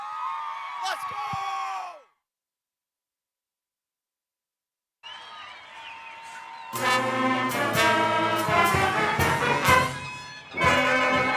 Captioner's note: applause